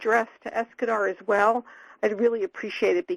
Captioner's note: none